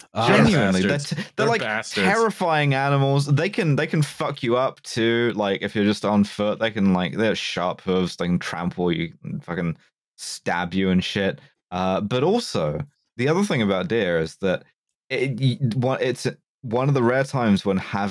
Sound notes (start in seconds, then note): 15.9 stammers